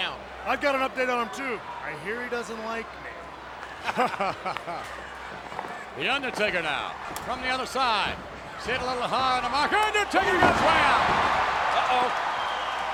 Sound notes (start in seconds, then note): 3.6 laugh